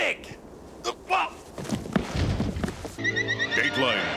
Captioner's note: grunts